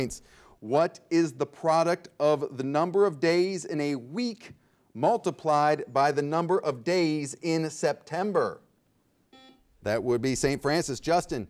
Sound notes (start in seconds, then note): 9.3 bell rings